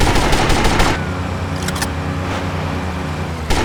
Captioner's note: gunfire